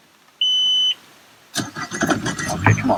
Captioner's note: key beeping; engine sputtering